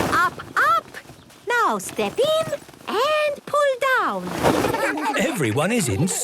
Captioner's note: laughter